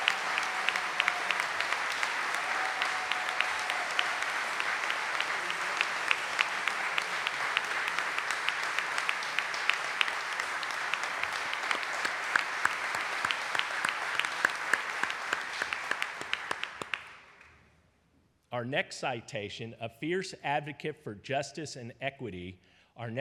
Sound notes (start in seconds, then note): 7.5 audience cheering and applauding